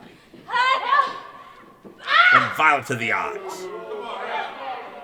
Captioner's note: crowd jeering